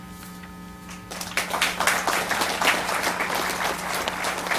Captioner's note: audience applauds